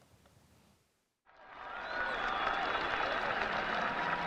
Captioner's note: applause